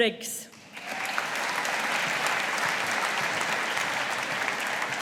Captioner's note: audience applauding